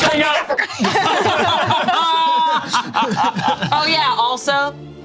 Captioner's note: group laughs